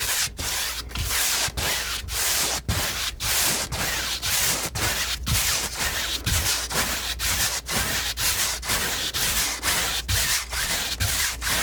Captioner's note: scratching